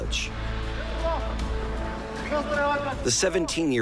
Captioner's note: men shouting